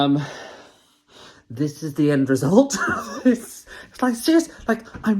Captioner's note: laughs